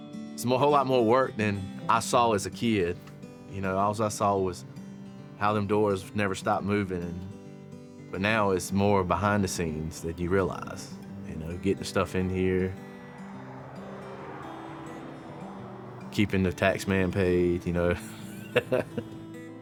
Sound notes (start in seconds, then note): 13.0 traffic whooshing; 17.7 chuckling